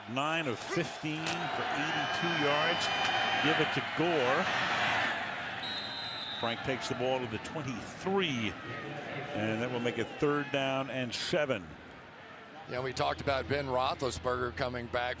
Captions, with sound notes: Hasselbeck, 9 of 15 for 82 yards. Give it to Gore. [whistle blowing] Frank takes the ball to the 23. And that will make it third down and 7. Yeah, and we talked about Ben Roethlisberger